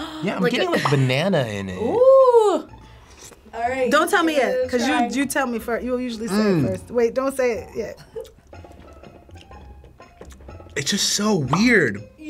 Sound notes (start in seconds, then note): 0.0 bubble popping; 6.3 groaning; 9.2 suspenseful instrumental music; 11.5 bubble popping